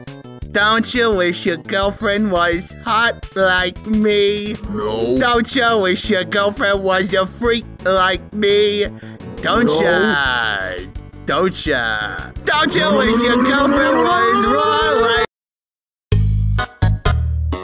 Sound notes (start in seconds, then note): 9.2 angry error noises